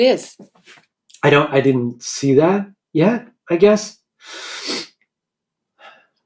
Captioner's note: sniffs